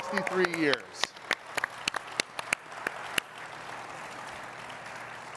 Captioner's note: all clapping and cheering